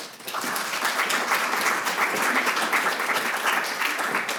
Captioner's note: audience applauding